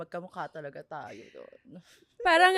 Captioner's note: laughs